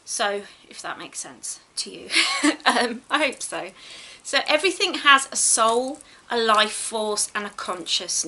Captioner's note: giggles